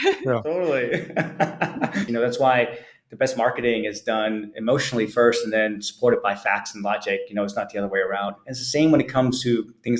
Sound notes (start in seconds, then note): 0.9 laughing